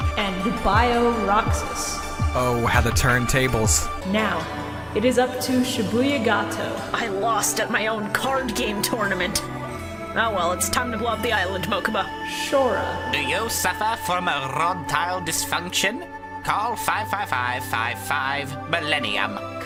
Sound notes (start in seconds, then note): 0.0 singing; 6.9 Kaiba voice; 13.1 Marik voice